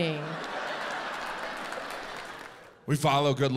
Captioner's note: audience laughs